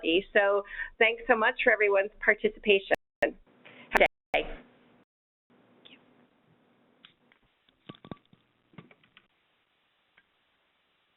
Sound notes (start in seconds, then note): 5.0 silence